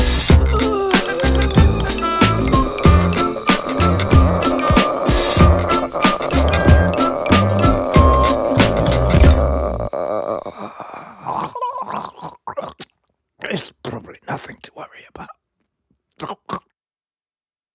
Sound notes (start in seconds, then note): 0.3 disturbing gasping; 10.5 deathly gargle